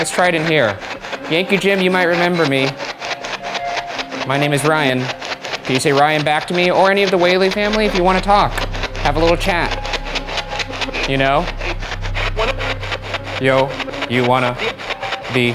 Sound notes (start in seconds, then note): 3.5 static buzzing; 12.6 spirit box chatting